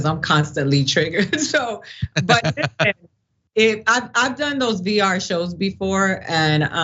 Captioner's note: laugh